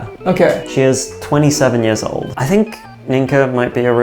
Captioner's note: none